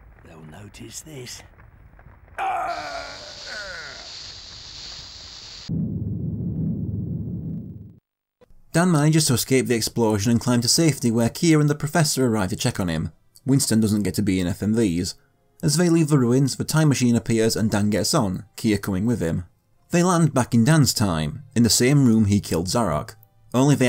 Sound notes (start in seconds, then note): 3.0 in-game audio